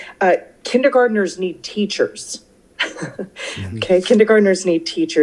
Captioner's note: laughs